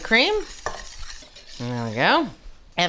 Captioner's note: whisk scraping